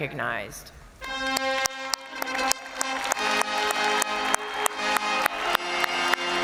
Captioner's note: crowd applauding; triumphant music